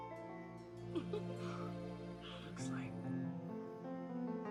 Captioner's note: laughing